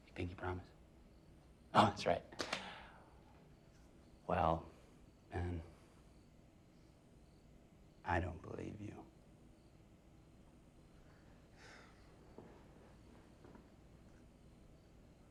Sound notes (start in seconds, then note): 2.6 laughs; 9.6 crickets chirping